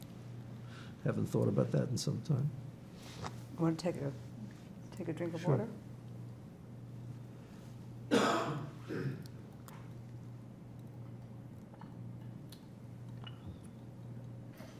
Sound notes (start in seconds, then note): 8.0 coughing; 8.9 drinking